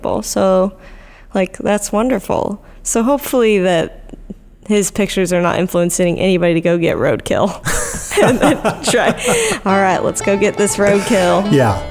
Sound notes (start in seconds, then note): 7.6 laughs; 10.8 upbeat banjo music